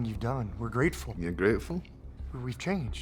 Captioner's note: scottish accent